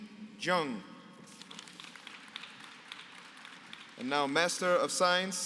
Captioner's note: applause